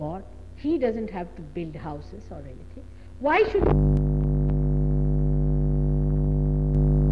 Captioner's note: noise in mp3